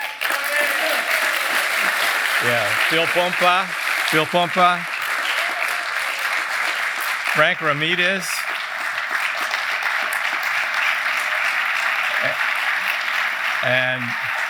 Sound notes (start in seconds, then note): 0.5 applause; 5.2 applause